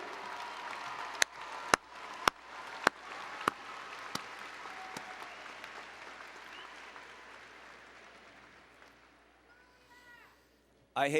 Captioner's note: applause and Cheering